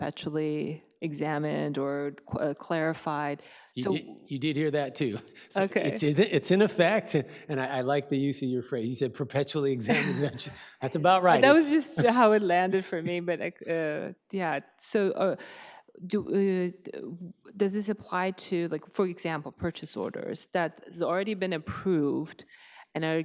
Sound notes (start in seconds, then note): 9.9 chuckles